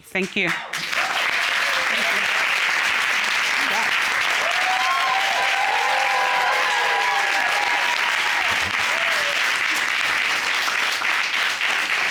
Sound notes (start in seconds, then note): 3.0 applause; 4.1 cheering